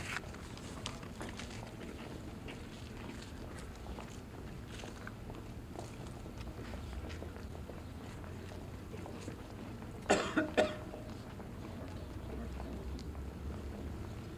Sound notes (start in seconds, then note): 3.4 footsteps and sounds of the choir setting up